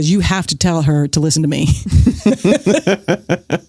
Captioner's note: laughs